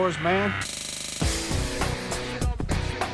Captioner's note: electricity crackles; hard rock music continues